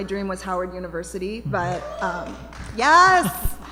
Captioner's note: cheering